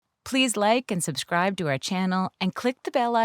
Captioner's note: voiceover